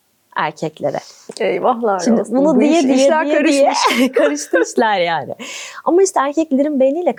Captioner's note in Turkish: kahkaha